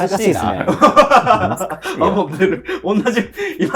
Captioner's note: laughing